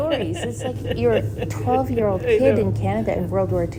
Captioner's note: laughing